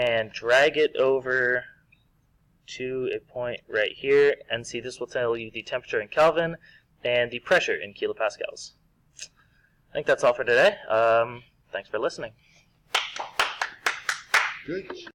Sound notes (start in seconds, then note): 12.9 mild applause